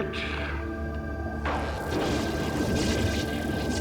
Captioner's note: buzzing